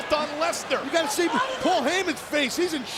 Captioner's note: fan yelling